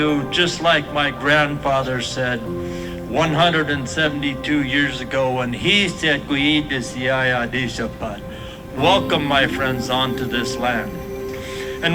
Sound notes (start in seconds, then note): 6.6 speaking Duwamish